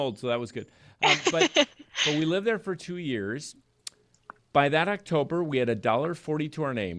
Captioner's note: laughs